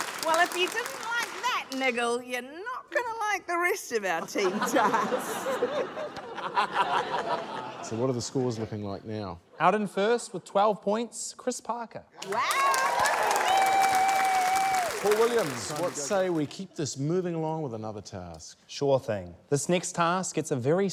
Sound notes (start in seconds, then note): 4.2 laughter; 12.2 cheering, applause